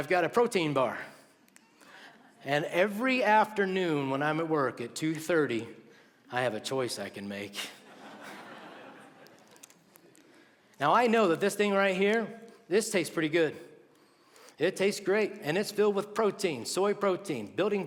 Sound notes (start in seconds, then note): 7.6 laughter